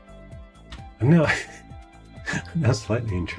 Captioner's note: laughing